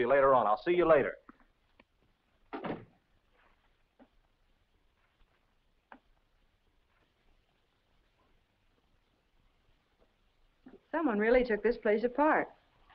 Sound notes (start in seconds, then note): 2.5 door thuds shut